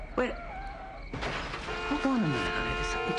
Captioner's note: crash